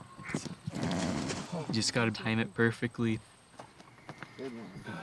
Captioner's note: exhales